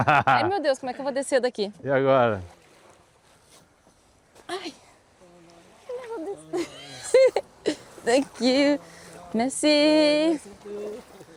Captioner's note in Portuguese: risadas